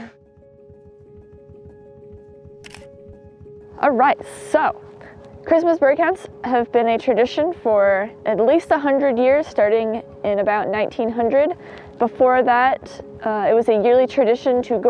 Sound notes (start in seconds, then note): 0.6 gentle music; 2.6 camera clicks